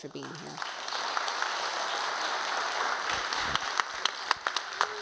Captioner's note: audience applauding